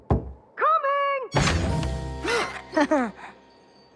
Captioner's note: gasps, chuckles